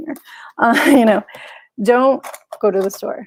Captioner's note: chuckles